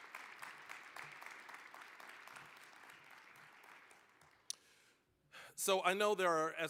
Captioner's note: applause